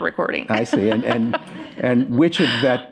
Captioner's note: laughter